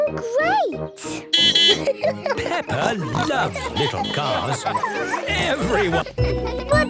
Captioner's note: beeping and laughing